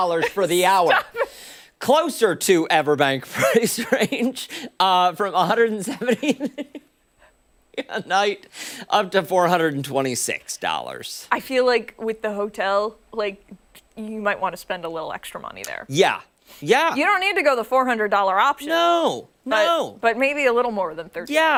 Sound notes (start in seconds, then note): 5.9 laughter